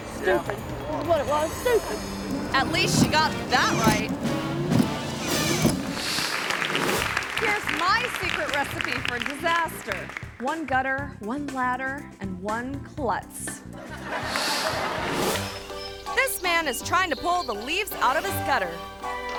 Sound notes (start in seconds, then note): 4.8 wipers whirring; 5.9 audience clapping; 13.7 audience laughing; 14.4 screen whooshes